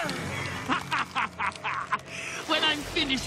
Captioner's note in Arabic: يئن; يضحك